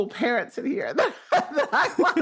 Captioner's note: laughs